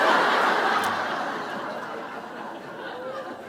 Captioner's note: laughter